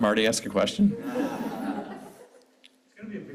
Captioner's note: scattered chuckles